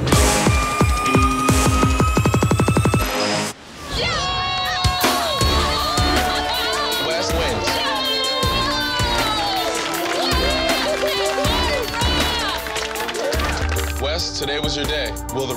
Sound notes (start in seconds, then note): 0.0 upbeat music; 4.1 audience cheering